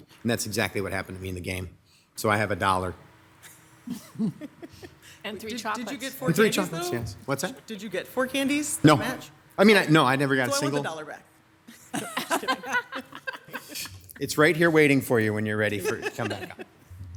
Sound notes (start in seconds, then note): 3.8 council members laugh; 11.7 council members laughing